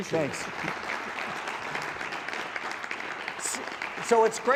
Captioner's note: audience applause